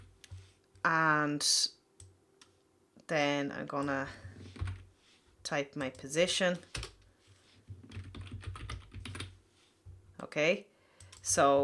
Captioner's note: typing sound; typing sound